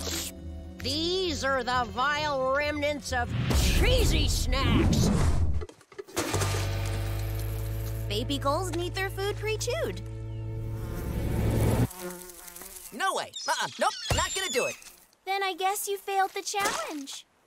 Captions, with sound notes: These are the vile remnants of cheesy snacks. [clanking] Baby gulls need their food pre-chewed. [buzzing] No way. Uh-uh. Nope. Not gonna do it. Then I guess you fail the challenge.